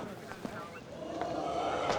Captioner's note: recording of deep growling plays